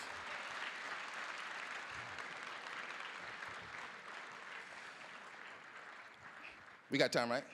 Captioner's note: applause